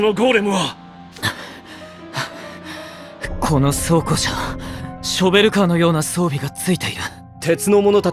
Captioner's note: pant pant…